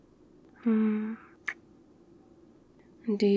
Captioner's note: kiss